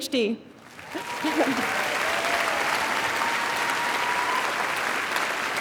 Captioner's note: audience cheering and applauding